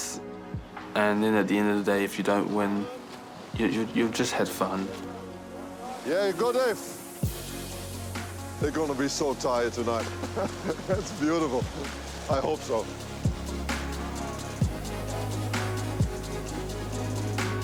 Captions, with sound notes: And then at the end of the day, if you don't win, you've just had fun. - Yeah. Good eff. They're gonna be so tired tonight. (LAUGHS) That's beautiful. I hope so. (UPBEAT ELECTRONIC MUSIC)